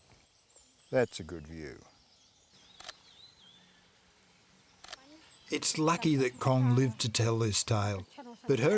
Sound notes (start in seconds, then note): 2.7 shutter clicking